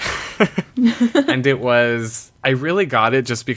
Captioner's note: laughs